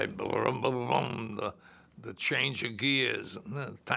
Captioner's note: making rumbling sounds